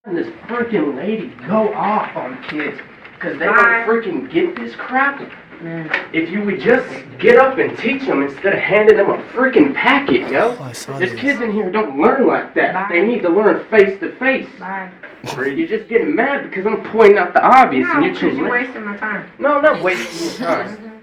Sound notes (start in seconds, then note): 15.2 scoffs; 19.7 laughs